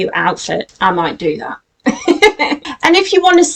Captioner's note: laughs